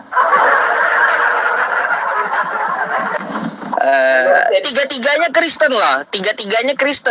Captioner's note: laughs